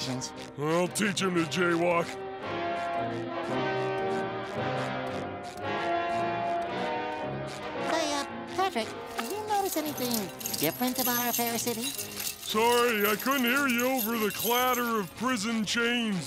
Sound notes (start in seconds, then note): none